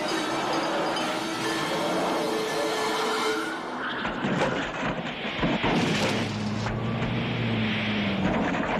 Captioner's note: tires screeching